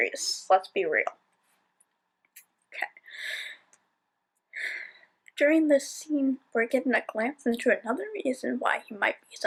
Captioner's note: sigh